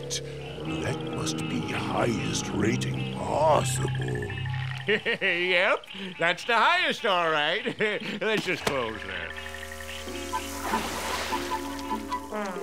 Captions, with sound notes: That must be highest rating possible. [chuckles] Yep! That's the highest, alright! Let's just close that.